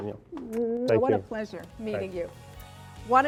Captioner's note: kissing noise